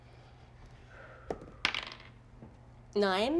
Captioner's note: die rolling